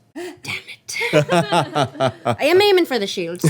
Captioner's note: laughing